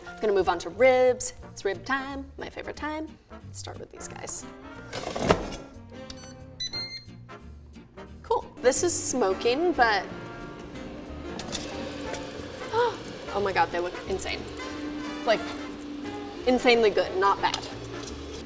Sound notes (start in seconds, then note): 6.6 airfryer beeps; 10.7 gasps